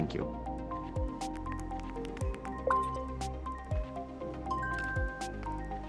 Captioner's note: buoyant music continues; text clicking; graphics chiming